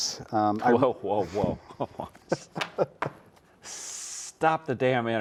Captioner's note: chuckles